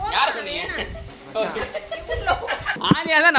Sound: laughs

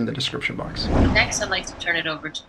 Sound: screen swooshes

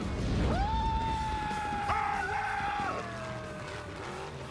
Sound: screaming

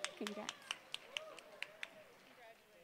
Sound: applause

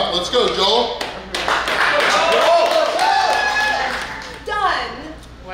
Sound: cheering & Clapping

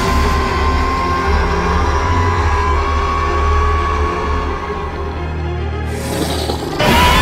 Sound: Scorpios Rex screeching loudly; intense music

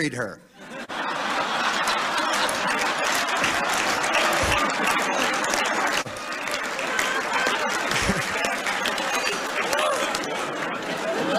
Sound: laughter, scattered claps; laughter

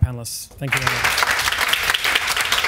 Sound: audience applauds

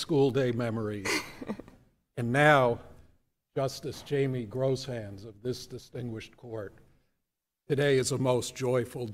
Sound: laughter

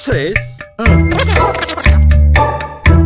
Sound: mumbling

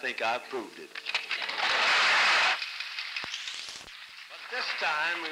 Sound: applause

